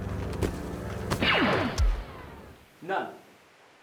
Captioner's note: blaster shot